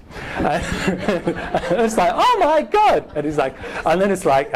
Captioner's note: laughing